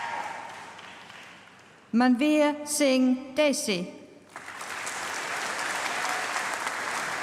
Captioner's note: applause; applause